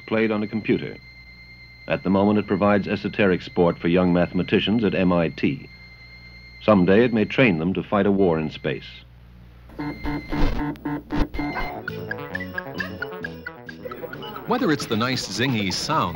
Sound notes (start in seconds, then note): 11.9 digital beeping; 13.6 electronic piano